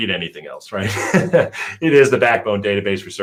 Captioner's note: laughs